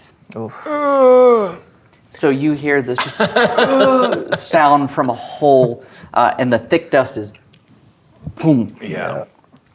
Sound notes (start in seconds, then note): 0.5 groans, as character; 4.0 groans